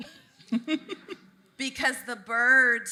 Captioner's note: laughing